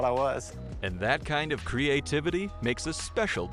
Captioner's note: voiceover